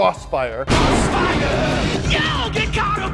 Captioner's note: thundering